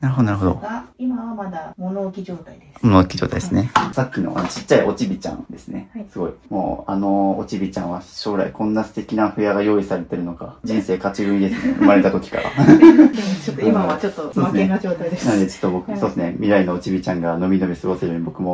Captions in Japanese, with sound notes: なるほどなるほどが今はまだ物置き状態 です。物置き状態ですね。さっきのあの おちびちゃんですね。 すごい。もうあのおちびちゃんは将来んな素敵なふが用意されてるのか。人生勝ち組みですね。生まれた時から。でもちょっと今はちょっと負けな状態です。 [笑い] なんでちょっと僕そうですね未来のおちびちゃんがのみノみ過ごせるように僕も片付けていきますがおりがたいことに僕のらす練習が置いてあったり